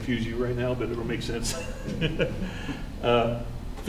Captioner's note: laughs